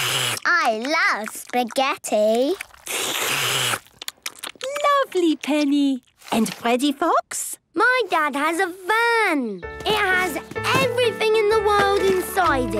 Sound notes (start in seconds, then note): 2.4 all slurping